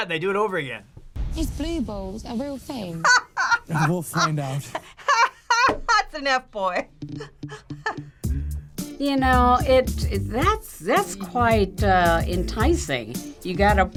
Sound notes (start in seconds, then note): 3.0 laughs